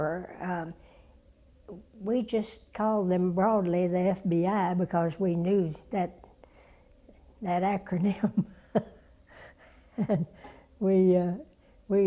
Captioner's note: laugh